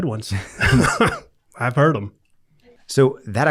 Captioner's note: chuckling